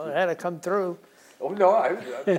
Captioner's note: laughs